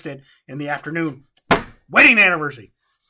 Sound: hat smacks table

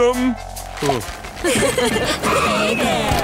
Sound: giggling

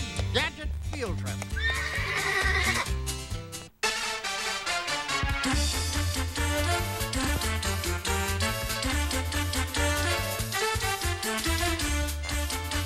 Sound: horse whinnies

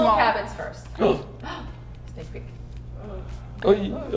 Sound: gasping

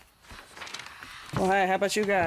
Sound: ghostly voices whispering

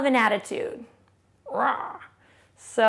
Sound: roars

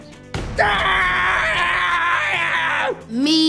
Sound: screaming

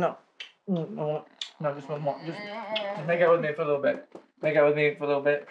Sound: she groans

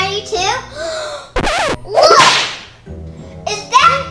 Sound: gasps

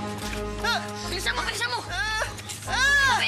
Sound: Shadow grunting

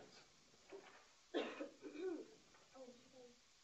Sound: coughing

